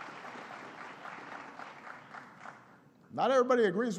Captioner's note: applause